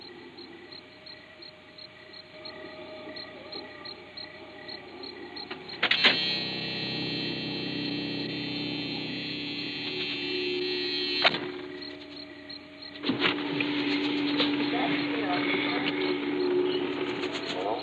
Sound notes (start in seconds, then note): 5.6 ominous music; 14.5 voices on drive-in speaker